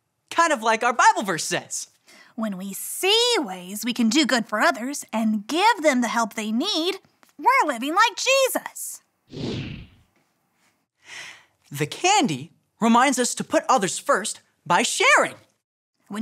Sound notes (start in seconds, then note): 9.3 air whooshing